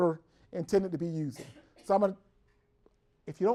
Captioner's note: cough in the background